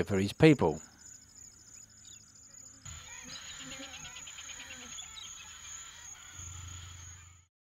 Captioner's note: bird sounds